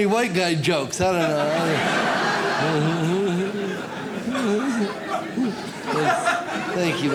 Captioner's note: audience laughs